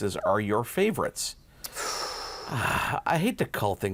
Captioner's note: both sigh